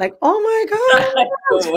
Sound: laughs

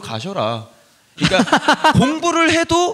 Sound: laughs

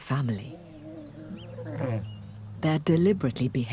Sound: roars

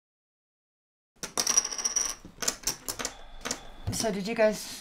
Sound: poker chips clinking

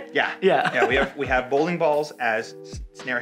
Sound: laughs

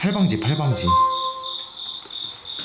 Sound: cell phone sound

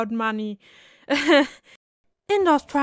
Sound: nervous laughter

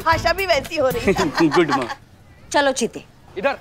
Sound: laughing

